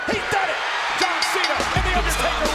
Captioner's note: bell rings